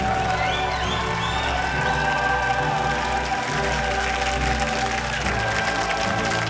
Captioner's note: cheering and applause